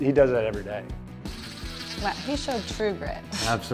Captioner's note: tool whirring